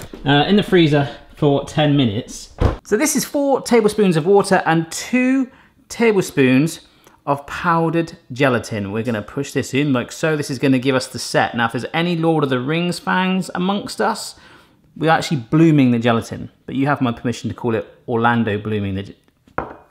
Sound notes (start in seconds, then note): none